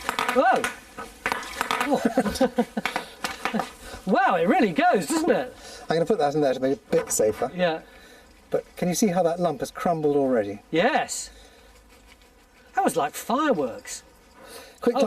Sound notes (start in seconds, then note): 1.4 laughs